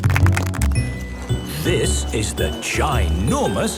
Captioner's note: laughing